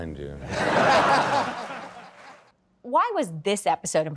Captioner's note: audience laughing